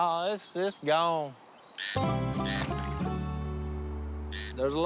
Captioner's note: croaking